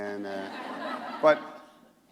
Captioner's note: laughter